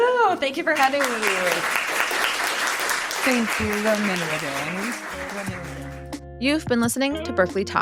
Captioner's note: applause